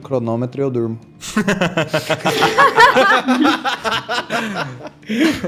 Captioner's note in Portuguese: Todos riem